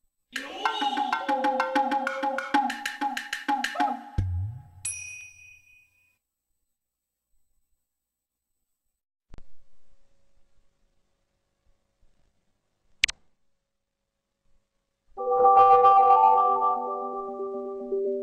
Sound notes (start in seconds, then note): 13.0 128-bit click; 15.2 futuristic music plays